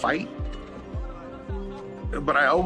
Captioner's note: soldiers speaking in foreign language